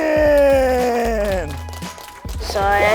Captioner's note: clapping